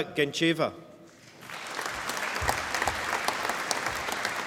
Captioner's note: applause